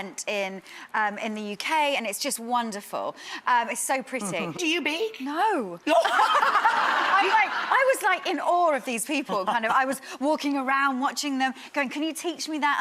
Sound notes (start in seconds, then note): 6.3 laughing